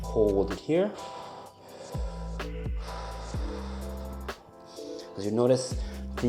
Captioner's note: gentle music; breathing deeply